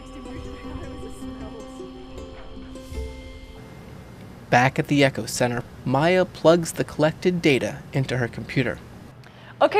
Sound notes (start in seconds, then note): 0.0 upbeat music; 0.0 people chattering